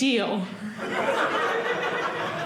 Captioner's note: audience laughing